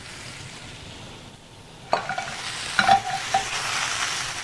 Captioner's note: calamari sizzling